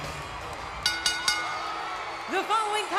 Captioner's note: bell rings